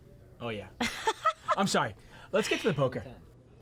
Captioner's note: laughing